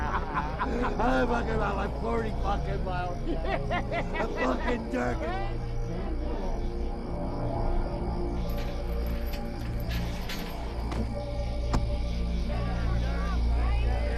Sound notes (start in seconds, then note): 3.6 laughing